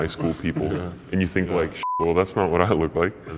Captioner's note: beep